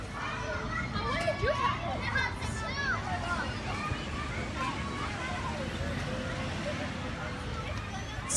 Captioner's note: sounds of a busy neighborhood playground in Queens fade in to background